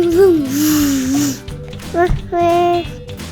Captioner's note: baby noises